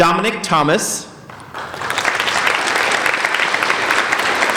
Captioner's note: applauding